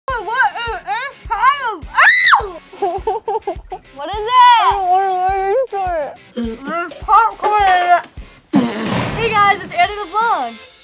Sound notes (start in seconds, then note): 1.9 screaming